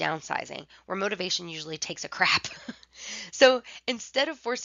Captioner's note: laughter